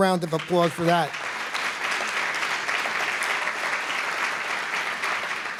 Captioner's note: applause